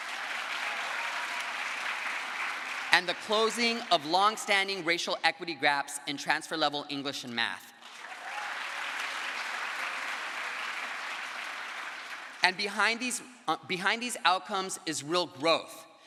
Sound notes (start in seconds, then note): 0.0 crowd applause; 7.8 crowd applause